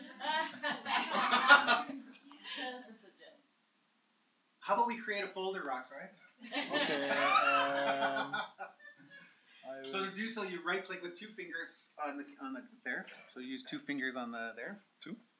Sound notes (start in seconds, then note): 6.4 laughter